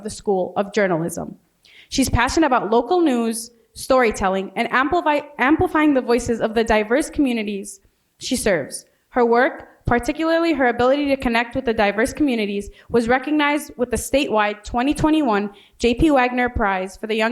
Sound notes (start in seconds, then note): none